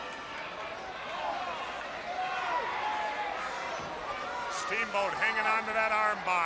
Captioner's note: crowd chatter